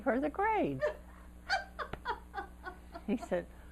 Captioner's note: laughter